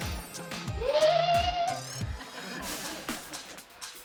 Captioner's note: girl cheering